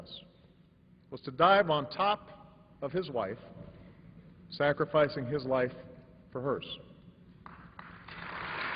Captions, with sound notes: WAS TO DIVE ON TOP OF HIS WIFE, 146 00:08:17,000 --> 00:08:16,999 SACRIFICING HIS LIFE FOR HER. [APPLAUSE]